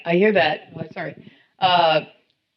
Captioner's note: slight Mic Feedback sound